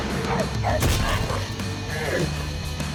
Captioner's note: roars; barking; crunch; Kara grunts